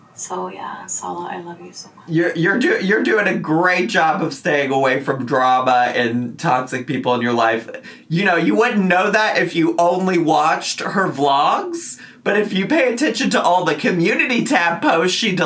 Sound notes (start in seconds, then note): none